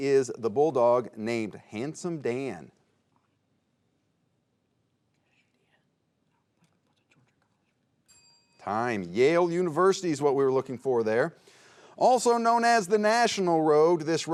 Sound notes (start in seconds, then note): 2.9 players whispering; 8.0 bell dinging